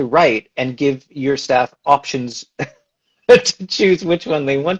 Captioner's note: laughs